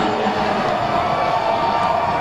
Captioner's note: cheering